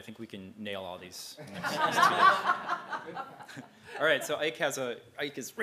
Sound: laugh

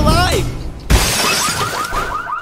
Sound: car window being smashed; car alarm going off

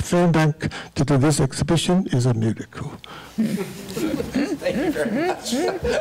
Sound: laughing

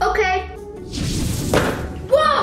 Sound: whooshing

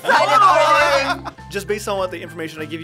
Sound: laughter

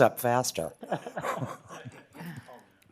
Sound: laughing

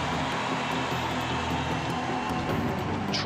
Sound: cheers and applause

